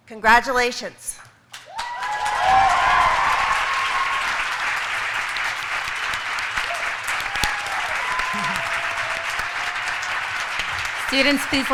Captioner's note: applause